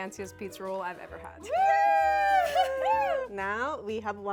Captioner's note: cheering